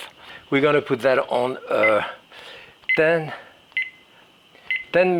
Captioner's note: timber beeps